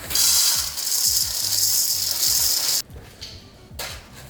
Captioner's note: cereal pours